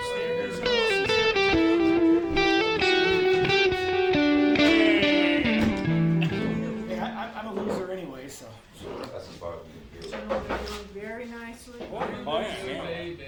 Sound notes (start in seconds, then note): 0.0 light guitar music; 7.5 patrons chattering